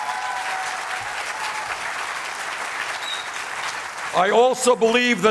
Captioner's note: applause